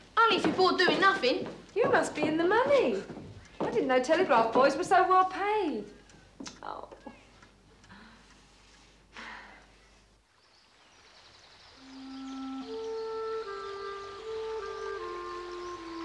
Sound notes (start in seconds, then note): 9.1 contented sigh; 11.8 soft instrumental music